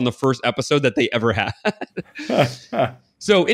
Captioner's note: laughs